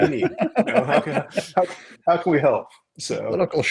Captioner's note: laughing